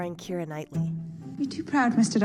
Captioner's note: soundbite of film, "pride and prejudice"